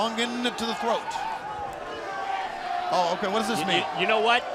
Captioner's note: crowd chatter